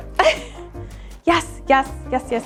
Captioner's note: laughing